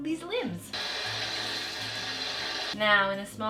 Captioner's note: water running